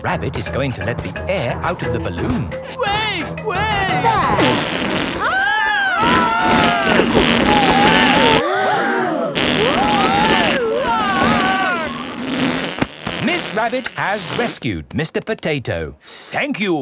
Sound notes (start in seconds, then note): 5.2 both screaming; 8.9 crowd gasps; 10.6 screaming